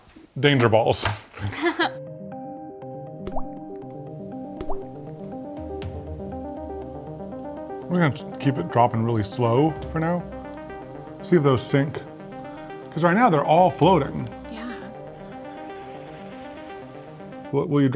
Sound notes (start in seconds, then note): 2.2 liquid dripping; 2.2 soft music; 16.0 dramatic music